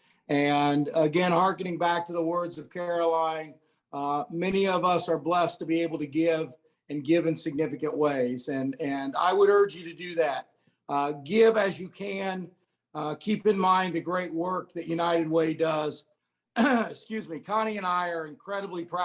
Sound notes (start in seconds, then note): 16.5 coughing